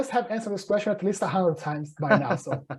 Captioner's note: laughing